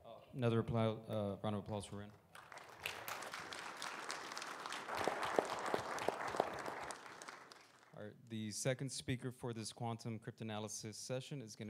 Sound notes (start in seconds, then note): 2.3 audience applauding